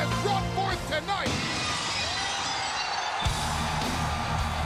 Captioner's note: glass shattering; aggressive music